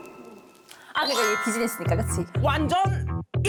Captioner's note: sound effect of repeating the same mistake